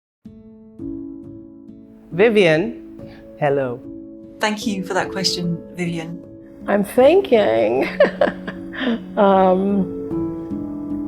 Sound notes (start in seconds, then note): 0.7 calming music; 7.7 Vivian laughs